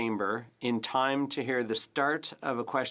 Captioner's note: speaking French